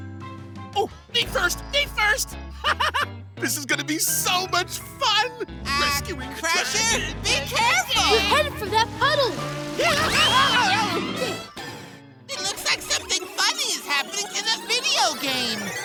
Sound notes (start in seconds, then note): 9.8 screaming